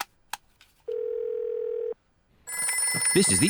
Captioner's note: phone rings